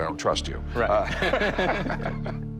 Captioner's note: laughs